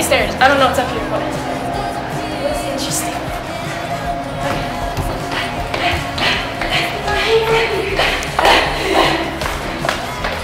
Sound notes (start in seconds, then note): 5.1 panting